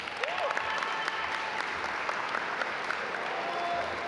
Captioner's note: audience applaud